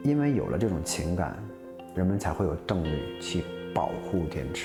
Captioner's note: speaking chinese